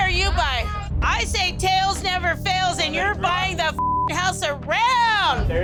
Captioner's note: beep